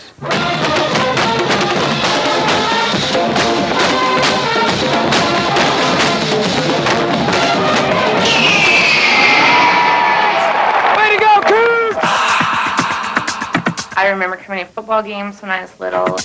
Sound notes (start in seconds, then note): 0.2 marching band playing; 9.6 cheering